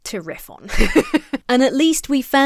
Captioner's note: laughs